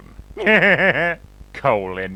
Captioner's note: laugh